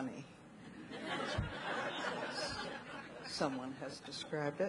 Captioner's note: audience laughing